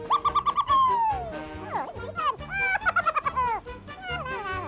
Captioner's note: laughing